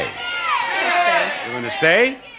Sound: audience yelling

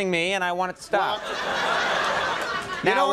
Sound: audience laughs

